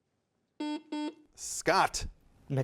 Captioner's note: buzzer buzzes